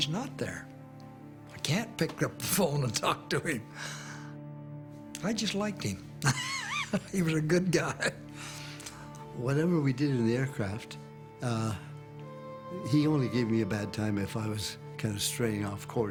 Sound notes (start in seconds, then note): 6.2 laughs